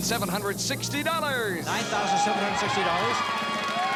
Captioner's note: cheers and applause